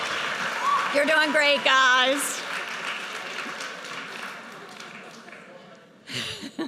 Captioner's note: audience cheers and applauds; laughs